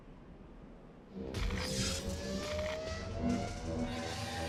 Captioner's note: static blaring